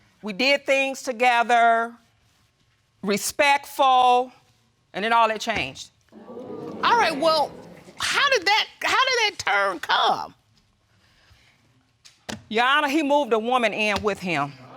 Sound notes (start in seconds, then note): 6.1 audience exclaim